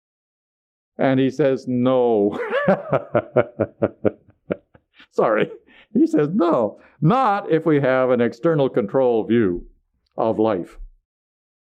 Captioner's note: laughs